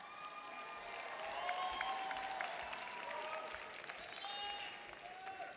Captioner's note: audience members applauding